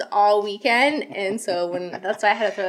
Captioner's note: laughs